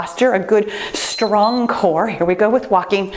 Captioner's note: timer beeps